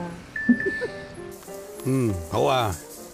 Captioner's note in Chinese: 訊息鈴聲